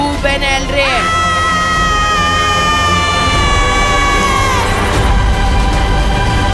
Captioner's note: sharp scream